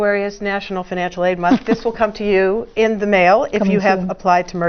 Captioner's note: laugh